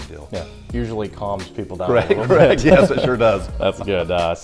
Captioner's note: laughter